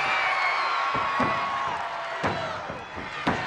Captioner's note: crowd cheering; referee smacking